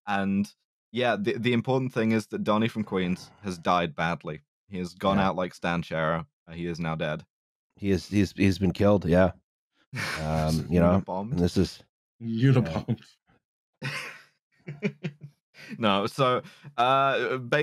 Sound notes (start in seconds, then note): 12.4 with a slight laugh; 14.7 laughs